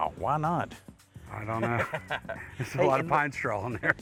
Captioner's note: laughter